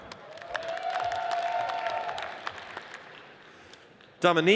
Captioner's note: audience cheers and applauds